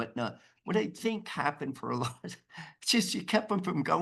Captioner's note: chuckles